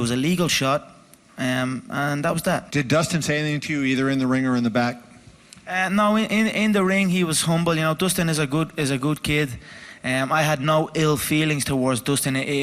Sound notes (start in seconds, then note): none